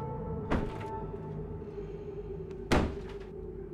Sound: banging continues

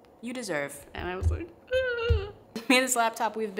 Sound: crying noises

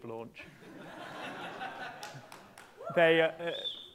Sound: laughter

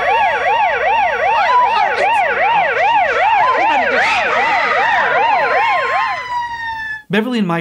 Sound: sirens, screaming

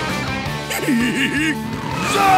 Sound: giggling

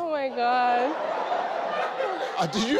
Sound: crowd laughing

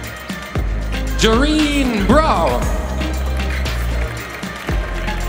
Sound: applause; ♫ Midtempo guitar music ♫

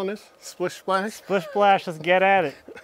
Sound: laughs

